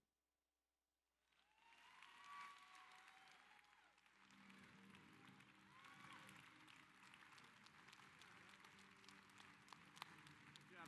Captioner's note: applause